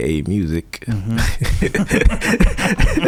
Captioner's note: laughing